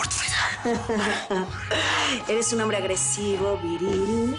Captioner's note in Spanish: Ella ríe